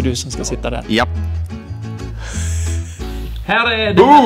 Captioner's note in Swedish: tyst skratt